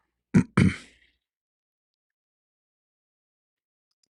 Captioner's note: clears throat